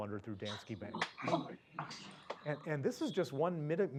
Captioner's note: laugh